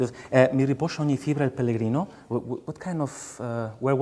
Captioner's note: speaking song lyrics in a foreign language